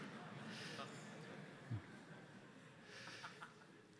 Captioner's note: crowd laughs